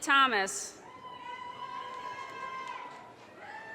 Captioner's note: audience cheers and applause